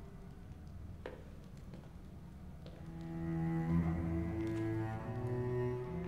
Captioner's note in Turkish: Ayak sesi